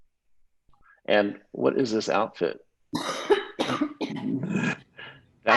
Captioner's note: coughs